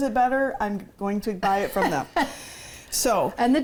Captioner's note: laughs